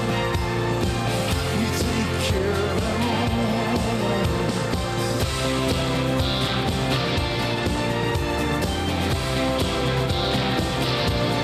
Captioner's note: applause